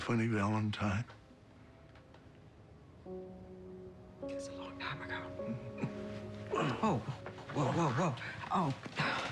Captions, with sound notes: "MY FUNNY VALENTINE." (whispers) IT WAS A LONG TIME AGO. (groans) OH. WHOA, WHOA, WHOA, WHOA. OH.